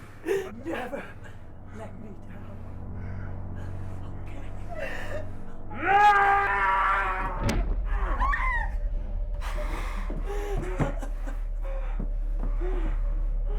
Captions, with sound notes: Never let me down, it's OK! [sobs] [Skull-Faced Assailant shouts] [strike thudding] [whimpers] [sobbing over muffled heavy breathing]